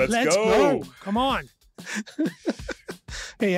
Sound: laughs

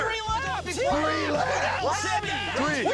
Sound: arguing

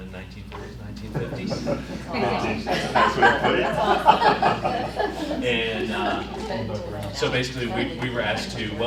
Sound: laughter

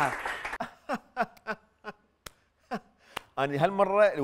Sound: fake clapping and laughing

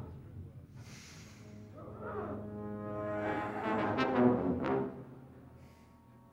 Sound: ominous music; Donald sniffing; ominous music

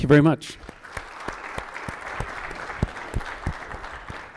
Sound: audience clapping

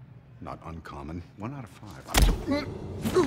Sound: grunts

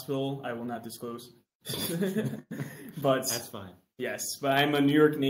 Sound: laughs

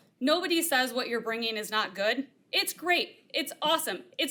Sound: none

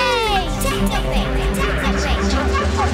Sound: echoing

